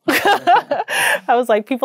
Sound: laughing

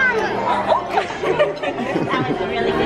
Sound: woman shrieks and laughs

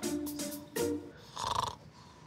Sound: snores

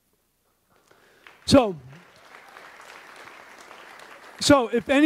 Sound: audience applauds

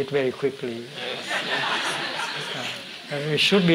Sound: laughter

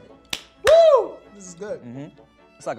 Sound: claps

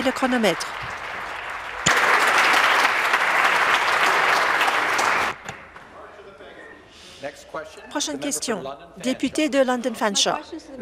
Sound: applause

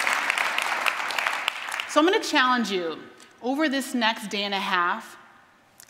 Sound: applause

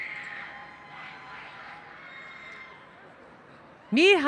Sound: cheering

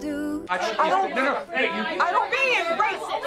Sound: everyone arguing

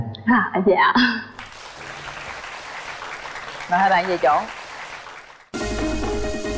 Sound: clap

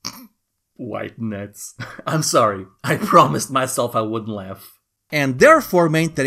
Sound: snickers white nuts

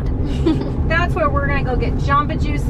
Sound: laughter

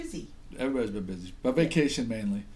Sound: voiceover

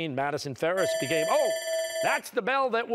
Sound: bell ringing

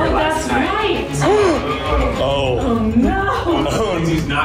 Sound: gasps

